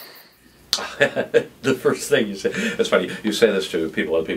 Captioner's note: laughing